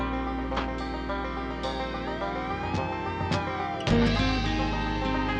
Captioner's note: siren